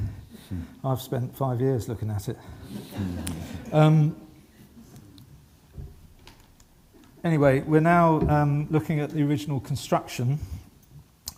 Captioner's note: laughing